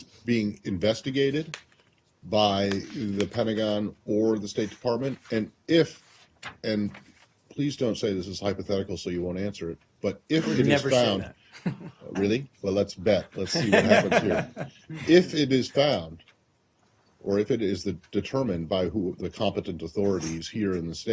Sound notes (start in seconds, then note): 11.5 laughter